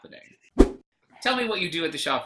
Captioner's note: whoosh